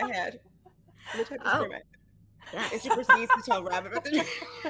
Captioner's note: all laughing